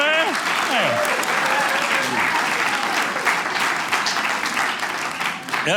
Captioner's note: audience cheering